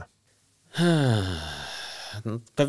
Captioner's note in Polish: westchnienie